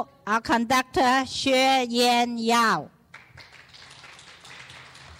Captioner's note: clapping